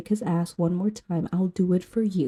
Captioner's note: whispering